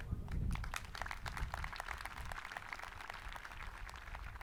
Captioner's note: people clapping